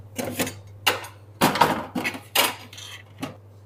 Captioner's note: clattering cutlery